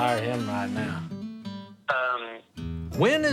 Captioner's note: on phone